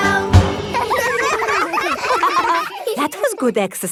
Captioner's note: all giggling